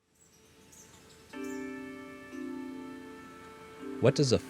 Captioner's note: soft soothing music; birds chirping